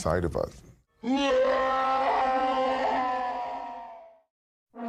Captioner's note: roars